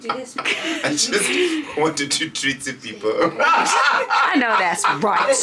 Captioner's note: laughs